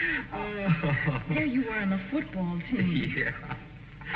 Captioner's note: chuckles; chuckling